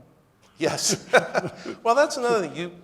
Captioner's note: laughs